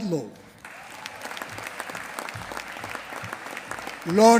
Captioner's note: applause